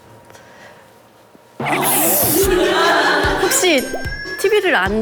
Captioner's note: failed to stifle laughter